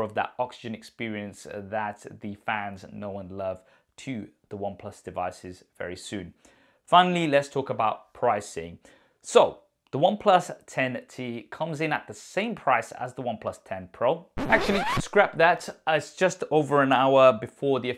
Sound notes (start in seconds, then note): 14.3 record scratching